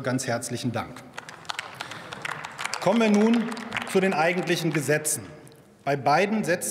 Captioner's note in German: Beifall bei der SPD und der CDU/CSU